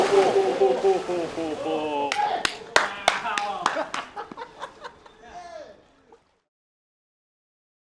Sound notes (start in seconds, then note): 0.1 whooping; 2.0 clapping; 3.2 laughter